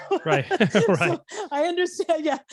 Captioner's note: laughing